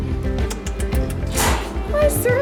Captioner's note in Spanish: Clics de lengua